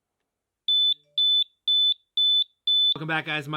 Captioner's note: alarm sounding